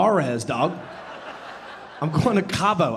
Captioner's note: audience laughing